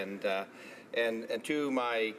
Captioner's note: speaking Alternative Language